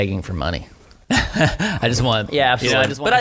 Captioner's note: laughter